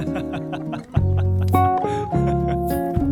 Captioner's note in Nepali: हास्य